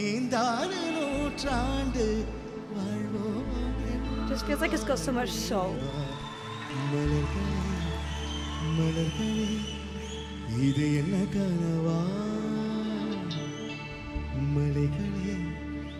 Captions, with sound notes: Just feels like its got so much soul. (audience cheering) (man singing in foreign language)